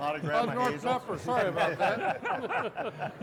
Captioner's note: all chuckle